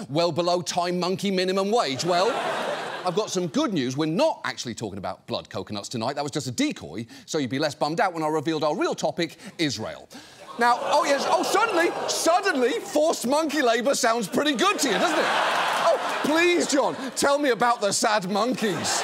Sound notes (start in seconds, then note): 1.9 audience laughs; 10.8 audience exclaims, groans; 15.3 audience laughs